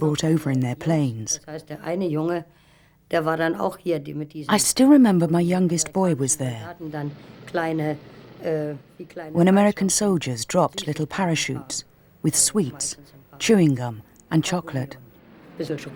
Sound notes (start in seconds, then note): 2.3 speaking german